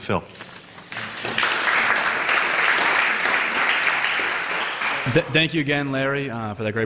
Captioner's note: applause